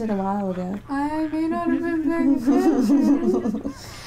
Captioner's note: laughter